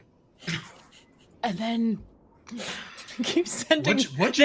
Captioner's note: sighs; laughs